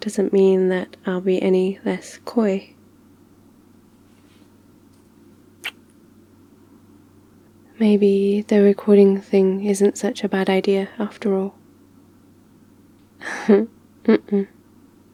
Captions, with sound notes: doesn't mean that I'll be any... less... coy *kiss* maybe the recording thing isn't such a bad idea after all *laughs* uh-uh